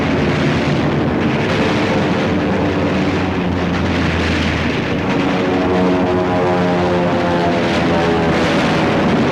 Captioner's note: gunfire, aircraft engines and explosions